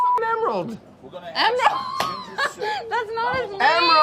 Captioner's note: laughs